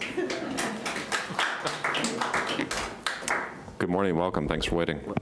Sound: applause

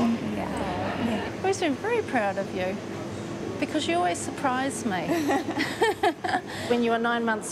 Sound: both chuckle

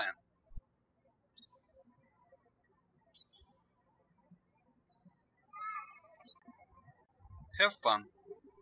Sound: birds chirping

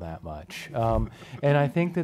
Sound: laughing

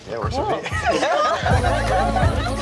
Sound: giggling

